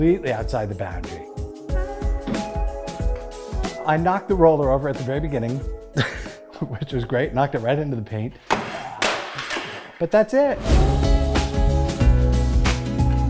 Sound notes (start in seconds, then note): 2.1 tapping; 9.0 sliding and crashing; 10.6 whoosh / music restarts